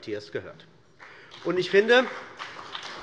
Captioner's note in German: Beifall bei der CDU und dem BÜNDNIS 90/DIE GRÜNEN